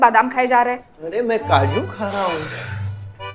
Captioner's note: Aniket Sighs